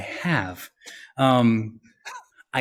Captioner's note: laughs